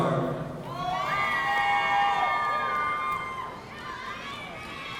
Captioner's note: audience cheering